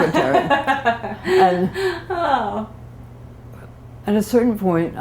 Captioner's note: laughter